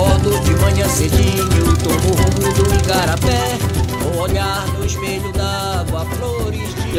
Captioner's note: boat engine